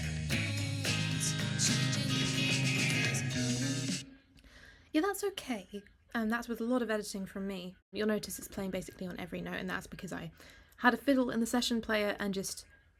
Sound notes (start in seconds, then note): 4.6 echo continues